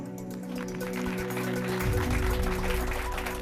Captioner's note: applause